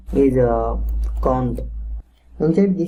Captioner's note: typing